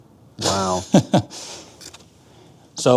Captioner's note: laughs